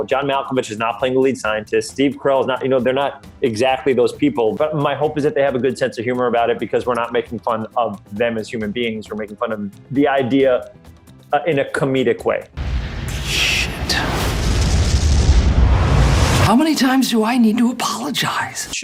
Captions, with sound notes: John Malkovich is not playing the lead scientist. Steve Carrell is not, they're not exactly those people, but my hope is that they have a good sense of humor about it 'cause we're not making fun of them as human beings, we're making fun of the idea in a comedic way. (loud exploding) - How many times do I need to apologize?